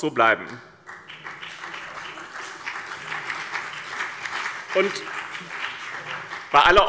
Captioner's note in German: Beifall BÜNDNIS 90/DIE GRÜNEN und CDU